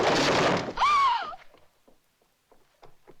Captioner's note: gasps